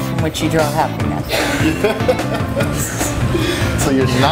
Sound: laughs

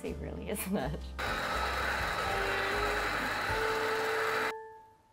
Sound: mixer whirring

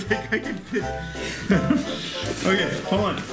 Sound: laughs

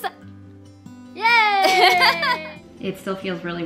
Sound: laughter

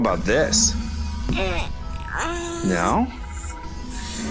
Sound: unhappy sounds

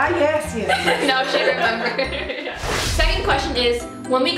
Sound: laughs

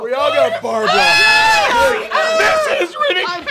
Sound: yelling

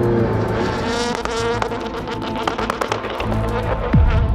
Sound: car revving; tense music

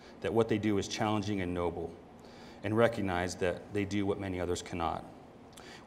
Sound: none

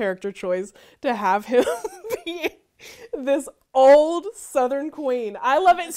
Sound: laughs

